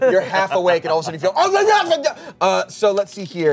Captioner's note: grumbles